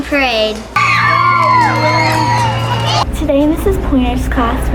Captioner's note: loud cheering